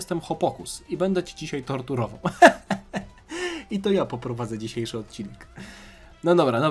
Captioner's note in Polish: śmiech